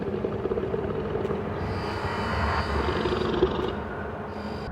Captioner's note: creature growling